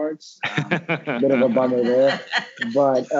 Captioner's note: all laughing